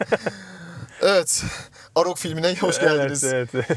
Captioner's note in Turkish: kahkaha